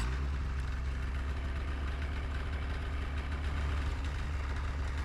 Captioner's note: engine revving